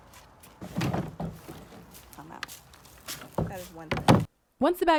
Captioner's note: plastic rattling